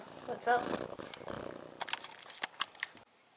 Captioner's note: loud purring